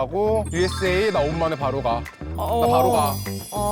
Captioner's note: portal opening sound effect